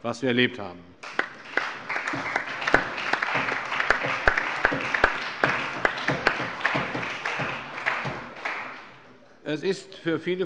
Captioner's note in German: Allgemeiner Beifall